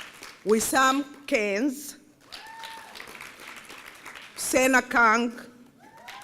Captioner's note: applause; applause